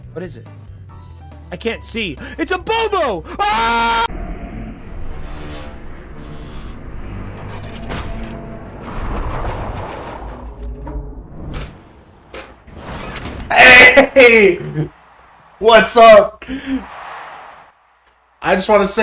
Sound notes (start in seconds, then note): 2.1 gasp of delight; 7.2 sounds of metal crunching; 13.6 loud, laughing